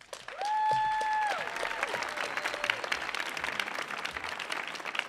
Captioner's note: audience applauding